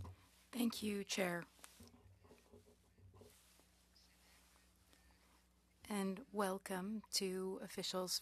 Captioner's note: speaking French